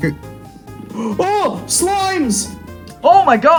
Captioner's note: gasp